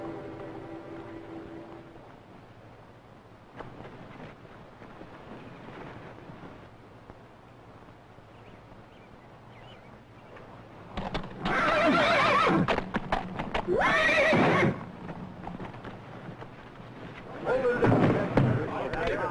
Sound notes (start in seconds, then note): 11.4 horse whinnying